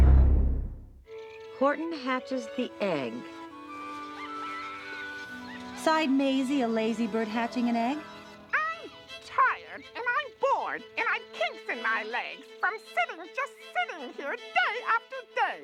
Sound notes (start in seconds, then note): 3.6 bird squawking